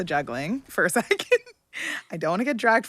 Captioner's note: laughing